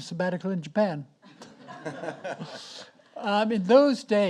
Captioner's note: audience laughs